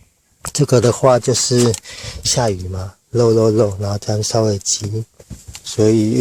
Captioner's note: tired